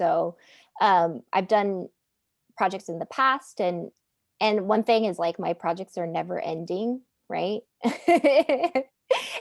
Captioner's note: laughing